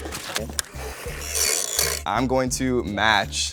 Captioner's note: money guns whirring